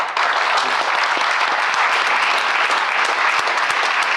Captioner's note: claps